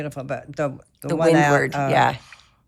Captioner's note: none